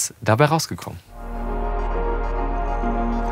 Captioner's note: spherical sounds